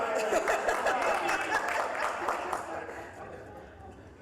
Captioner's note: laughing; applause